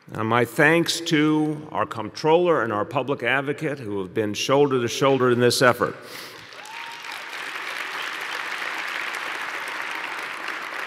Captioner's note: applause